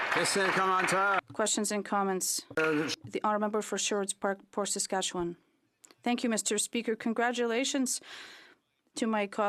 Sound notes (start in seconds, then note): 2.6 applause